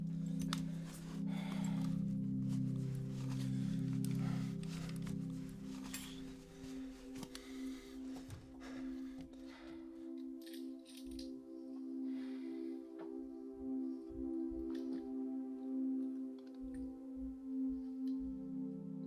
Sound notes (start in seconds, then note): 2.4 Mark breathing; 9.4 gentle music